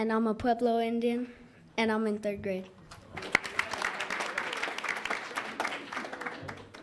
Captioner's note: audience applauds